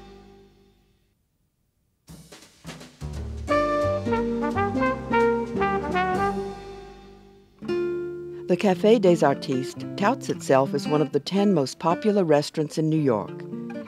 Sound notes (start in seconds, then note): 8.4 voiceover